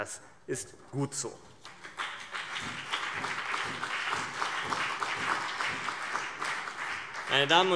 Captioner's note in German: Beifall CDU und BÜNDNIS 90/DIE GRÜNEN